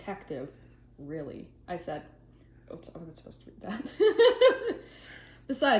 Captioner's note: laughs